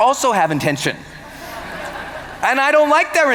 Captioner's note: laughter